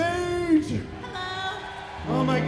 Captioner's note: applause